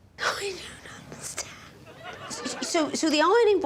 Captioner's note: laughs